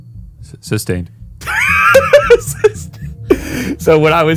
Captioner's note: tense synth music; laughing